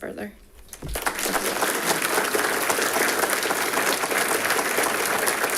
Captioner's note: audience applauding